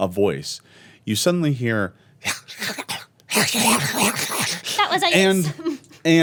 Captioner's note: snarling